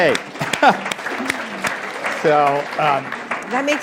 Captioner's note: applause